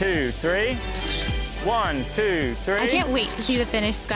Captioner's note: camera click